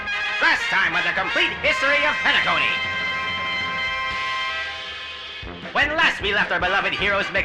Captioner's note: radio Announcer